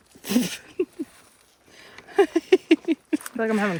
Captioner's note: laughs